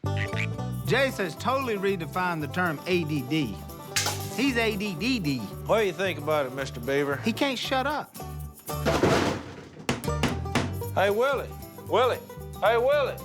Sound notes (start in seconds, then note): 8.8 thud